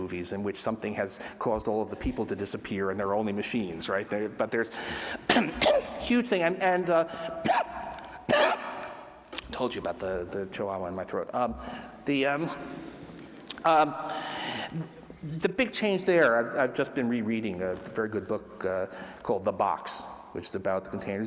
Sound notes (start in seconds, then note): 7.4 coughs